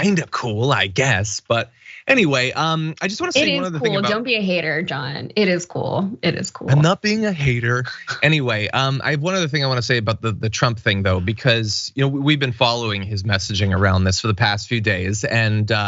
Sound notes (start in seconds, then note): 6.6 laugh